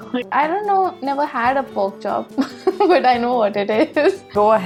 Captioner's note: laughs